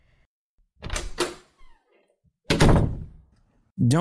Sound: door opens, closes

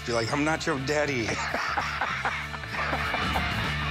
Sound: laughing

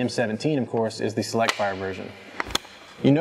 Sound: gun charging click

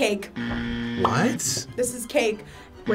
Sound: buzzer buzzing

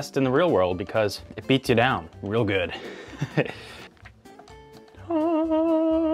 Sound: laughs

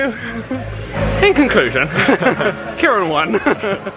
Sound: laughs

